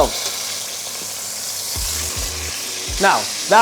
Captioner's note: sizzling sound